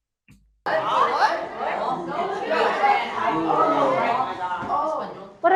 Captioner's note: students chatter indistinctly